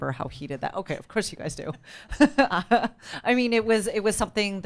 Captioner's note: laughs